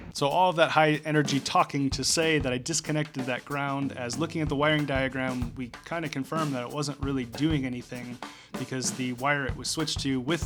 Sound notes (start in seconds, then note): none